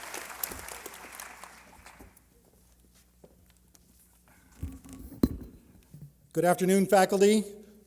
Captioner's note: applause